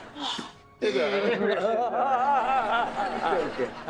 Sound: crying

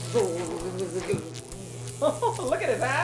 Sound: chuckling

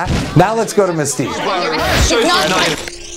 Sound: arguing, crunching; serene music

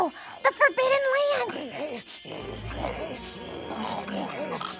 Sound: snarling

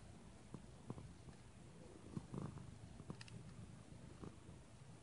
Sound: soft purring sound

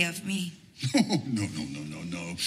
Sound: Rodolfo laughs

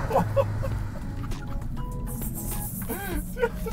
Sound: laughing

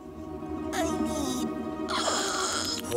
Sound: gasping

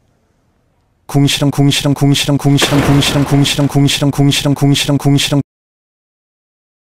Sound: angry noises

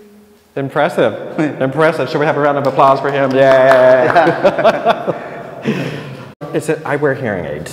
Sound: laughs

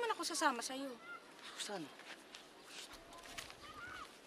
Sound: shushes

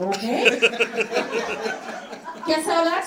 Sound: audience laughing

